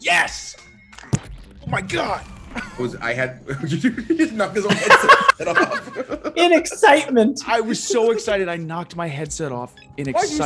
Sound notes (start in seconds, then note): 3.6 laugh